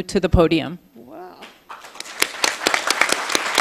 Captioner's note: applause